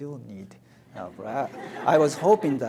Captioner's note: audience laughs